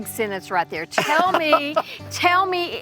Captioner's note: laughing